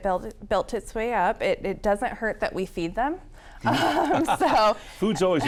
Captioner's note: laughs